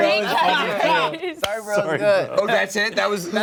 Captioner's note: laughter